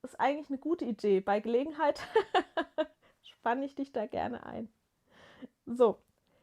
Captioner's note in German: gelächter